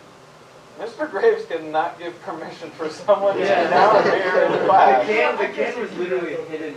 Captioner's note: chatter